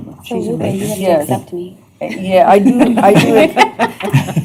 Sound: indistinct chatter

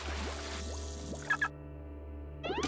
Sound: beeping

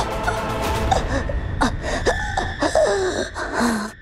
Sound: gasping

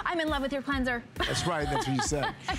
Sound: laughter

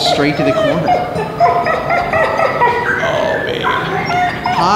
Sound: dogs whining

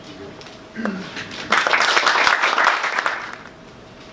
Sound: applause

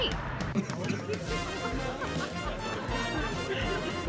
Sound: laughing

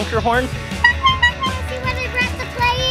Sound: horn honks

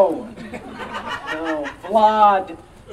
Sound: audience Laughing

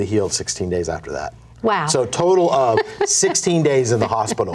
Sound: laughs

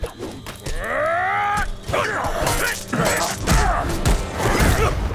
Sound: grunting

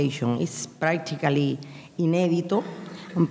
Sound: speaking in a foreign language

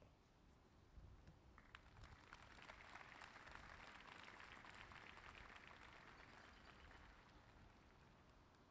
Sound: applause

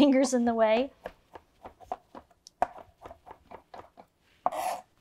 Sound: knife tapping

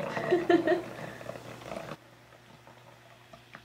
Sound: laughs

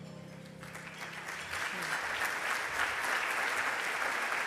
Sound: audience applauding

